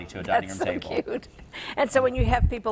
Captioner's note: laughs